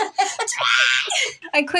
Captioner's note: chuckle; laugh; screeches; screeching